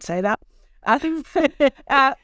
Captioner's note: laughs